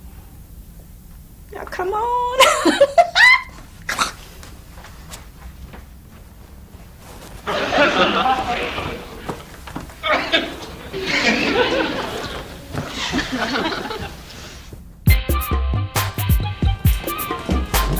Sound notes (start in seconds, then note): 2.1 laughs; 7.4 audience laughs; 15.1 upbeat music